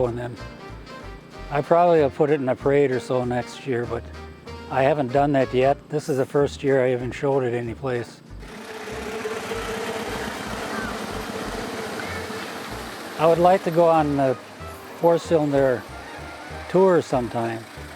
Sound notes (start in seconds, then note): 9.5 car engines rumbling